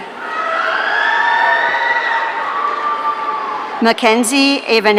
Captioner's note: audience cheering